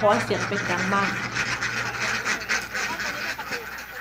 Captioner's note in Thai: เสียงเป็ด